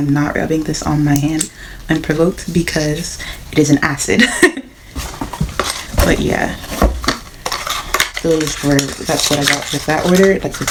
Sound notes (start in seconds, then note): 4.6 laughs